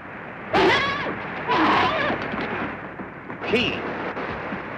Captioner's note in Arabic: صهيل الخيول